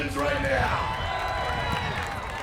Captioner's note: applause